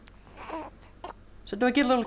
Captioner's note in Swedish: bebis gurglar